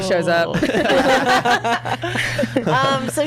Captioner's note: laughs